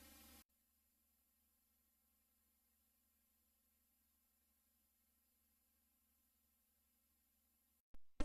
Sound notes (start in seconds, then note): 0.0 quiet VHS static